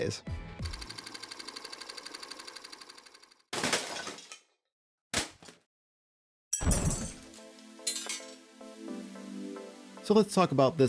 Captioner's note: camera Clicking